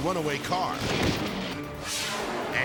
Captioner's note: body thumps